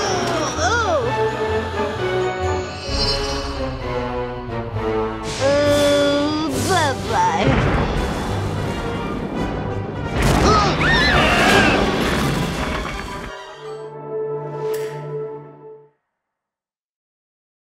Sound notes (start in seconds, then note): 7.4 explosion